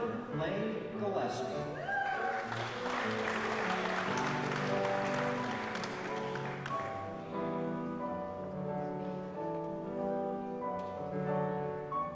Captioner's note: applause